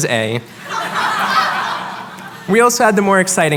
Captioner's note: laughter